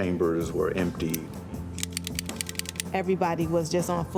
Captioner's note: gun clicking